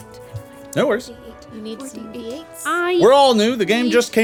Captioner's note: whispering